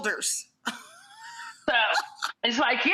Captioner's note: laughs